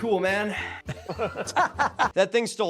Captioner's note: laughing